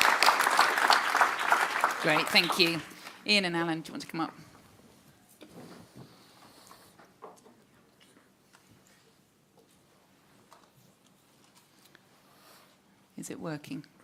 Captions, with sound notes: [AUDIENCE CLAPS] Great. Thank you. Ian and Alan, do you want to come up? Is it working?